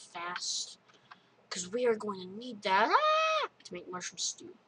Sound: screams

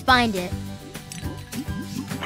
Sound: clinking

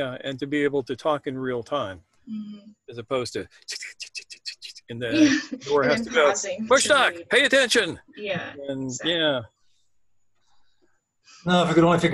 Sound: imitates clacking away on keyboard

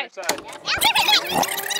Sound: rewinding sound

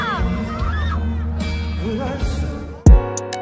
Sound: the cheering faded away

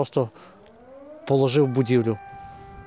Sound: siren sounds in the background

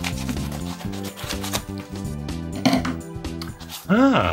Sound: paper tearing

